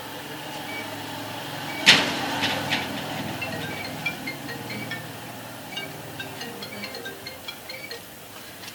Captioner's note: phone ringing